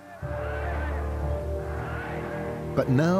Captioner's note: chanting "Heil"